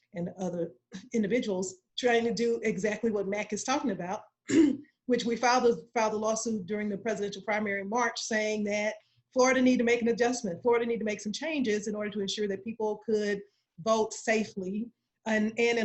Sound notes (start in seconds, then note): 4.5 clearing throat